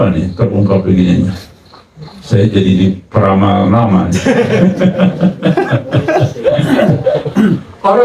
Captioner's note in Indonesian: tertawa